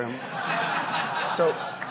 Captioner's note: audience laughing